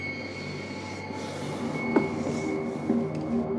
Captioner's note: sighs; ominous music continues